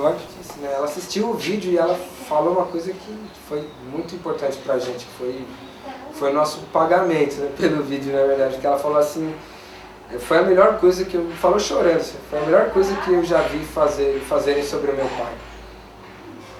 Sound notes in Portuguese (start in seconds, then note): none